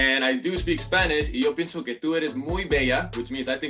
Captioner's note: speaks in foreign language